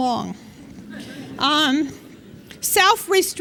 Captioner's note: laughter